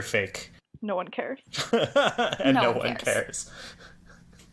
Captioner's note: laughs